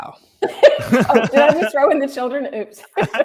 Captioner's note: laughing